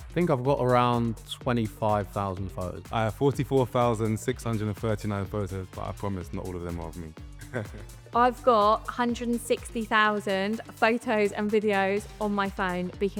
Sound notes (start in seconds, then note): 7.4 laughs